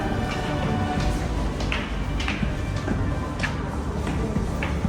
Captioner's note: footsteps clacking